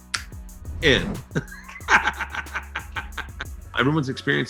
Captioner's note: laughs